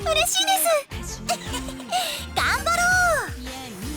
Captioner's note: giggle